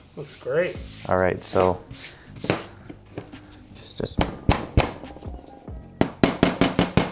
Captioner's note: hammer rapping; hammer tapping